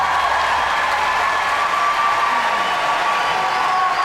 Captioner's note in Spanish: aplausos